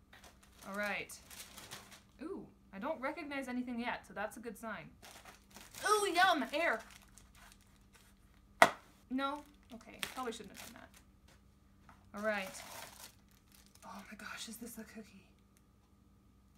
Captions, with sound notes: Alright. [paper crinkles] Oh, I don’t recognize anything yet so that’s a good sign. Ooh yum! Air! [Popping noise] No? Okay, probably shouldn’t have done that. Alright, oh my gosh is this a cookie??